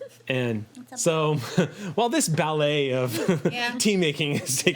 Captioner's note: laughs; laughs